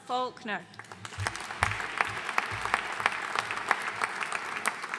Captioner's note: audience applauding